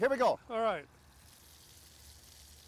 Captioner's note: grill sizzling